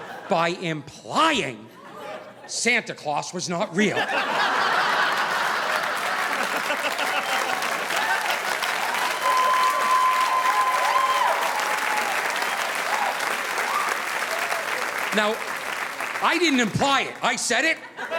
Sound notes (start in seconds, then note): 3.8 audience laughing; 4.2 audience applauding